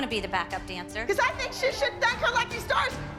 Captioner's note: yelling